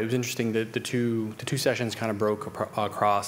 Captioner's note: none